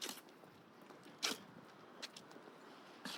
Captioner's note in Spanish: none